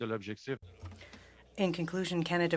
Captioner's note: speaking French